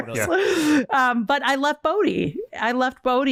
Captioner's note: laughs